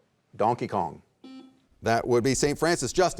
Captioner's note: buzzer beeps